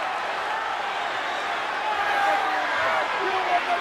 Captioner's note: crowd cheering